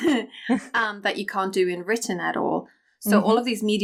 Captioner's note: chuckles